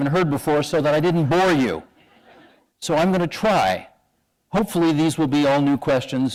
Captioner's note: chuckle